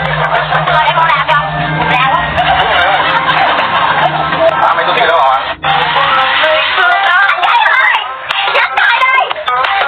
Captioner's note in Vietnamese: Vỗ tay